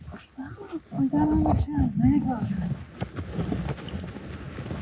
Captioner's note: chattering